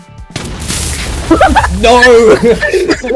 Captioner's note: many tnt minecarts explode prematurely; laughter